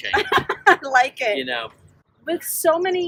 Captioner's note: laughs